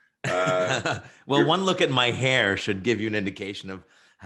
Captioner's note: chuckles